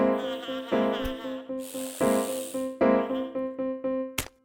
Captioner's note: sniffs